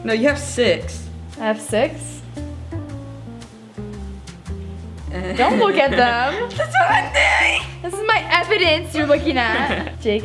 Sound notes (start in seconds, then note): 6.9 screeches